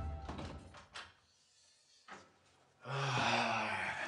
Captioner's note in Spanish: Sonido al abrir la puerta